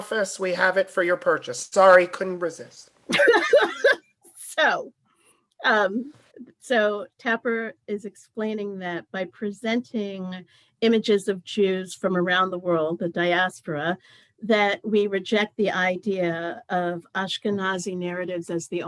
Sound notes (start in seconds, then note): 6.2 laughing